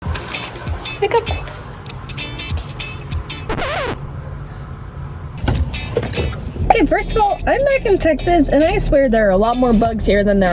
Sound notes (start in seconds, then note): 1.9 upbeat music; 3.4 record scratches; 6.6 upbeat music continues